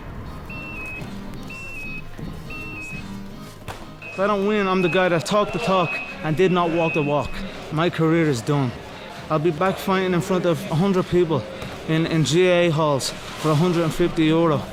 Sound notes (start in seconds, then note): 2.4 beeping